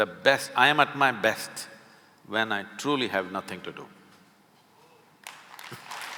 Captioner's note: applause